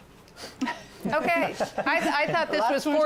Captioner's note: laughter